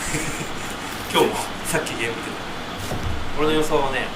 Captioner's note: laughs